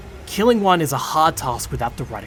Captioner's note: none